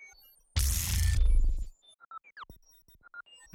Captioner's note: none